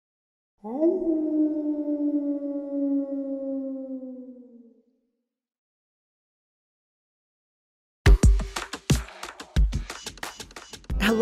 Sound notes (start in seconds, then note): 0.6 dog howling; 8.0 energetic music